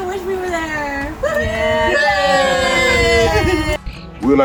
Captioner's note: cheering